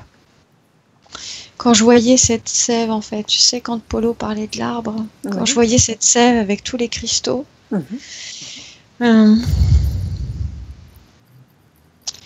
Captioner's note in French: respiration